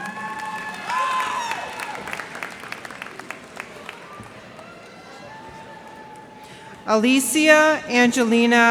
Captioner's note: cheers and applause